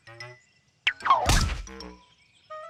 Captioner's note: none